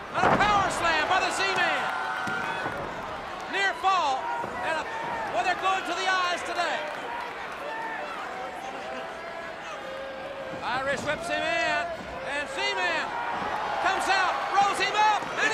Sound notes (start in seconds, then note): 7.6 crowd cheering